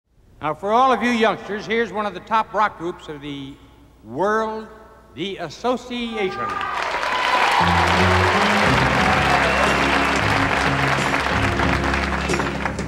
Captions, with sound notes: - For all of you youngsters here's one of the top rock groups of the world, The Association (audience applauding) (rock music)